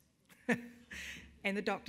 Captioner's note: chuckles